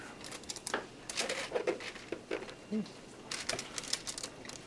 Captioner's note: tinfoil crumpling